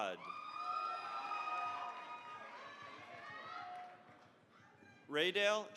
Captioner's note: cheering, applause